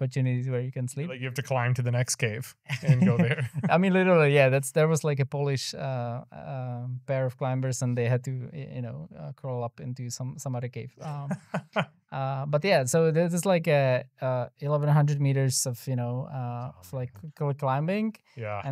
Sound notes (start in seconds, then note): 11.0 laughing